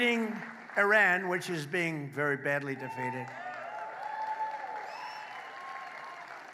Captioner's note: applause